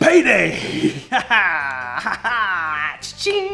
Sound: cheering

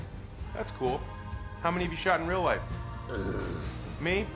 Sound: groans

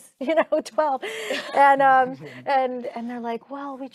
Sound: chuckling

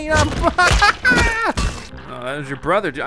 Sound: pounding; cackles

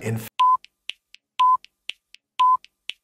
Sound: beeping

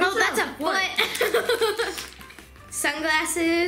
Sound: laughing

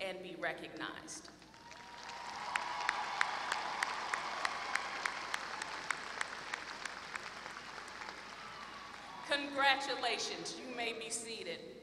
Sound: applause

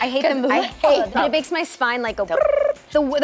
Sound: gagging; tongue trill

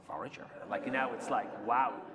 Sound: laughter

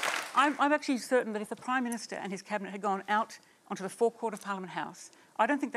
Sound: applause

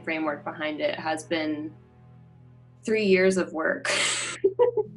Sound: laughs

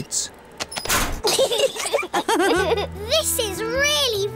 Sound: laughter

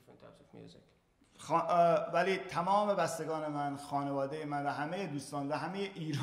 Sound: speaking in farsi

